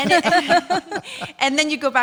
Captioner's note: all laughing